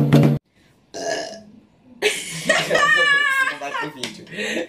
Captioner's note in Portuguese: arrota e ri